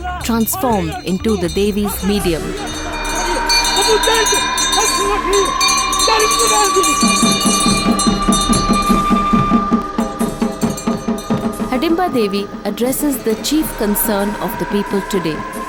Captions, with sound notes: transformed into the Devi’s medium. (bell chimes) (intense drums beating) Hadimba Devi addresses the chief concern of the people today